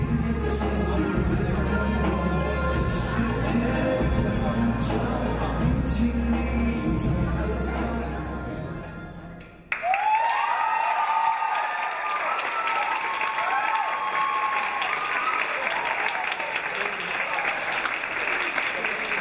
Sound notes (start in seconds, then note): 9.6 clapping; 9.7 cheering